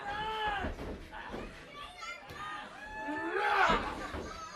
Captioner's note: crowd chatter